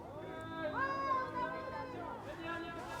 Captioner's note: shouting outside